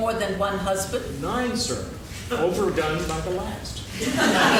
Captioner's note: laughing